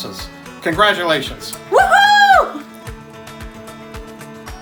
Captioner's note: cheering; energetic, bouncy music